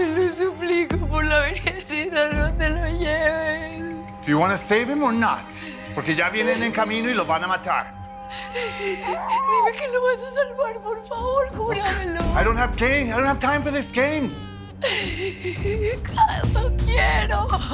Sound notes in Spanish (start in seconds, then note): 8.3 Sollozos; 13.6 Sollozos